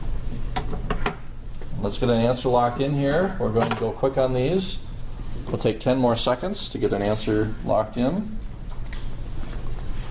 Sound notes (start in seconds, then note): none